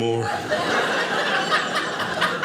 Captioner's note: audience laughing